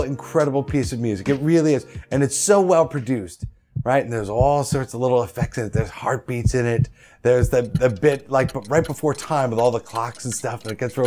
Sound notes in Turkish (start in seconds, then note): 3.4 kalp sesi; 7.2 saat tikler